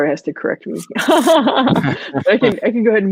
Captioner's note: laughing